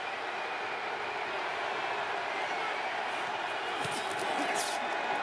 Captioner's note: crowd cheering